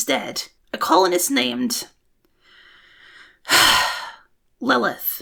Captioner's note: deep breath